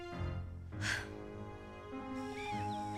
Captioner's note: sighs